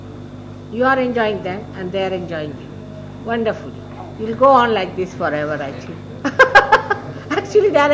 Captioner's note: shri mataji laughs